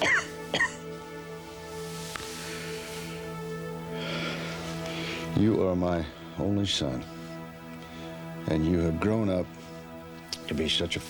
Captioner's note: coughs